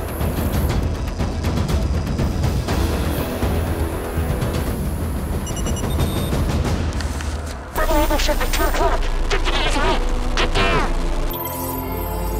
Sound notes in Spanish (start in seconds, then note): 7.7 Interferencia